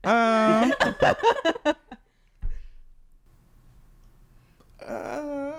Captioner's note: laughing